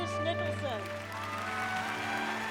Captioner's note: applauding